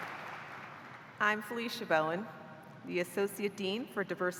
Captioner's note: cheers and applause